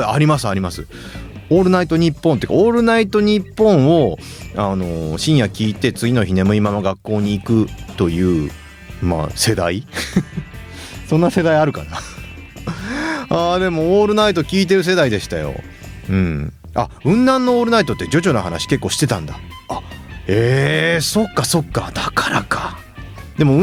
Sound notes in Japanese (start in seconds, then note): 12.4 笑い; 12.6 息をのむ音